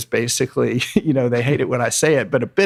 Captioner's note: laughs